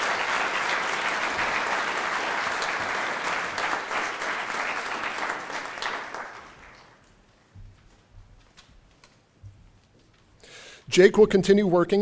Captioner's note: applause